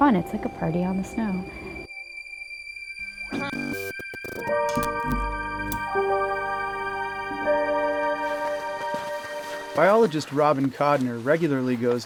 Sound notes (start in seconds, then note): 3.0 distorted buzzing